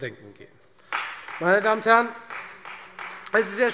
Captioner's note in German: Beifall Freie Demokraten